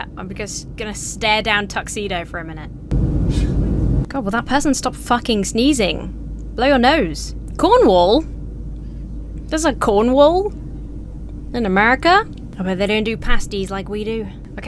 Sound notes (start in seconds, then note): 2.8 cabin air whooshing; 3.2 passenger sneezes